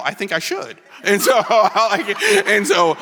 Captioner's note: laughs